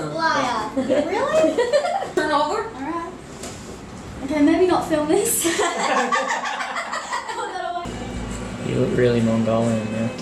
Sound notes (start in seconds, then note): 5.4 laughs